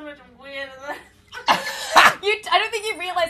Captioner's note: laughter